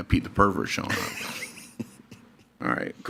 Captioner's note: laughs